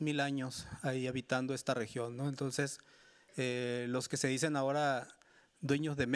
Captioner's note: speaking Spanish continues